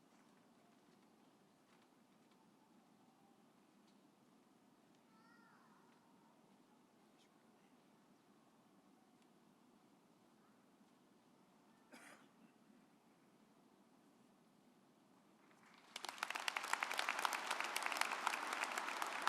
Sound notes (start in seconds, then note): 11.9 coughing; 15.5 audience applauding